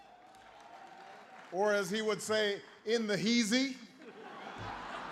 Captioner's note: applause; laughter